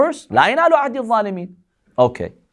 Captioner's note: Arabic